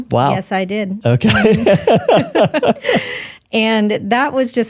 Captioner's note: laughing